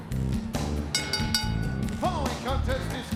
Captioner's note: bell ringing